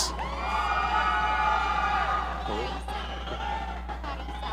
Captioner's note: audience cheering